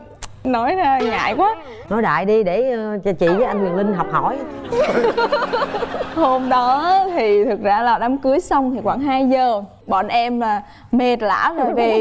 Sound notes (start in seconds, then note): 3.3 laughing